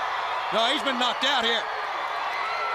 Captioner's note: crowd cheering